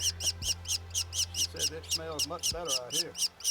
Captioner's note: laughing